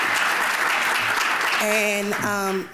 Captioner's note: applause